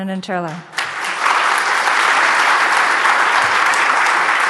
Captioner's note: audience applauds